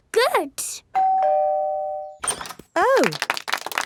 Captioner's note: doorbell ringing; crowd applauding